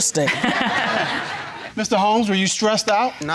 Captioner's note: all laughing